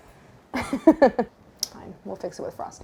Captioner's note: laughs